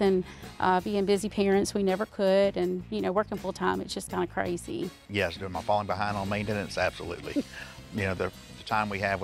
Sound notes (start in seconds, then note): 7.1 chuckles